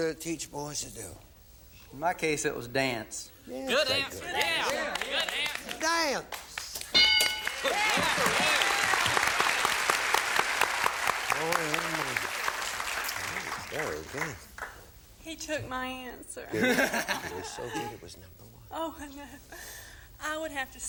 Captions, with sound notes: but what do girls teach boys to do? -In my case it was dance. -Good answer! Yeah, good answer. -Dance? (bell) (applause) Very good. -He took my answer. -Really? Well, so be it, it was number one.